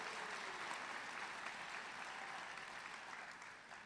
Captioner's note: applause